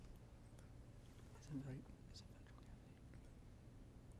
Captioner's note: whispering